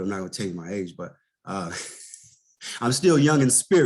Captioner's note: laughs